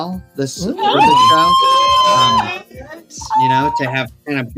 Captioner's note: exclaims